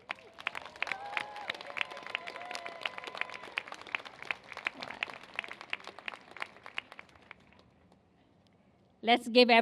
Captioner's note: applause